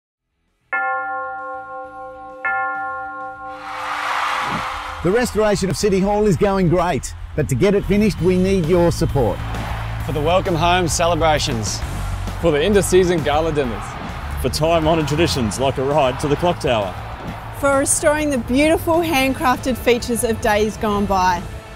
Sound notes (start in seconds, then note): 0.8 A bell ringing, crowd cheers